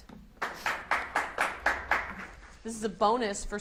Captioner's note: audience applauds